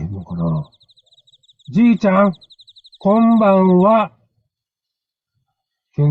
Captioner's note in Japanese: 大声で